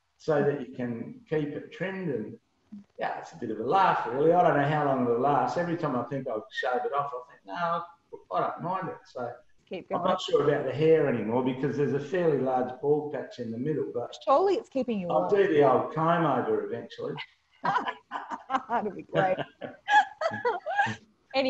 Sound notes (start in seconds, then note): 17.6 both laugh; 20.4 laughs